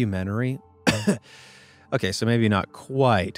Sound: narrator coughs

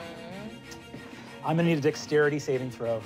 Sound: gasp

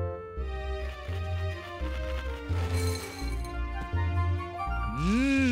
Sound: crunching

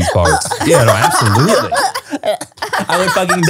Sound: everyone laughs

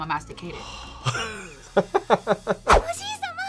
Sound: laughs

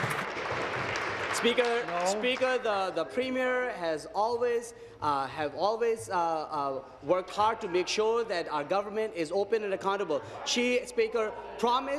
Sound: applause

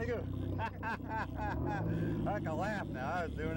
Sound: laughter

